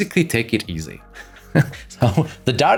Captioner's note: laughs